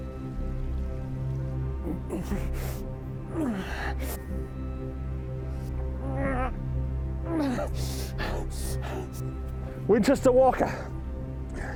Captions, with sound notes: (Jim groaning) (Jim panting) - Winters to Walker.